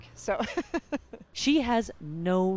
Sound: laughter

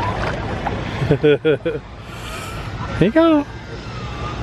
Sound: chuckles

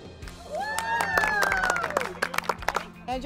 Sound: all applaud and cheer

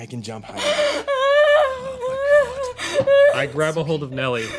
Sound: crying

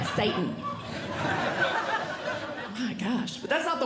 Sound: audience Laughing

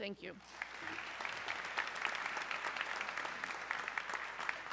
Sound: audience clapping

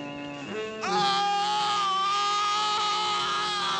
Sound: Gary screaming

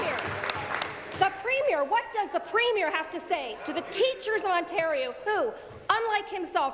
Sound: some Applause

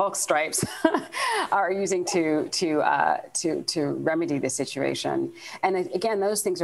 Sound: chuckles

